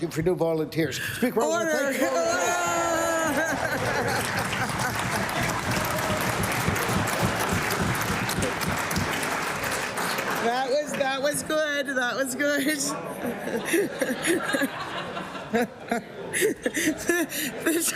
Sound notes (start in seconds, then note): 7.5 laughter; 9.3 applause